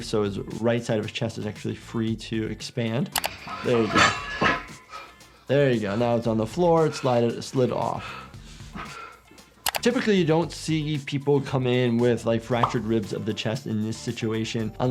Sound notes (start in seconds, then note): 4.8 weights clanking; 7.9 IShowSpeed panting